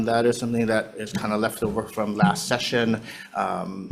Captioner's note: none